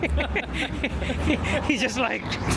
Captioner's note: laughs